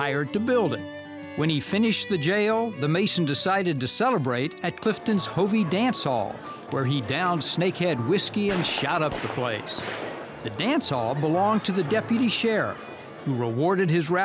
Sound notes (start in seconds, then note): 11.2 gun firing